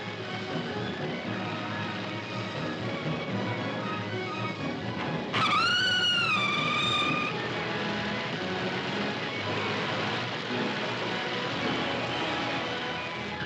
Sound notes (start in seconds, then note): 5.3 animal shrieks; 8.0 dramatic music; 8.0 fire roaring; 12.3 dramatic music; 12.3 fire crackling